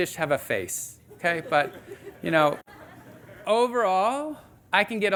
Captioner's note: audience laughing